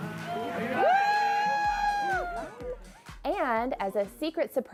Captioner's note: all cheering